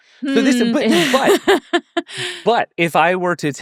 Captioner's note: laughing